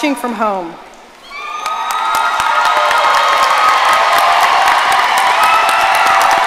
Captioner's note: audience cheering and applauding